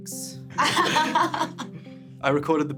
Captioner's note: laughing